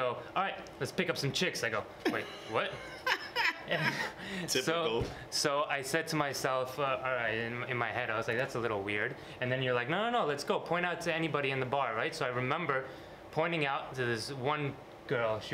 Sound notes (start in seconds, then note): 2.0 laughs